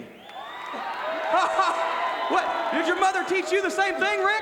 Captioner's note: crowd cheering